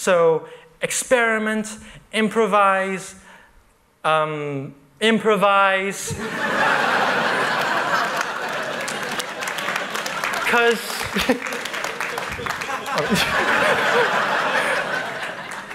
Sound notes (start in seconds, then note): 6.9 laughter; 7.0 applause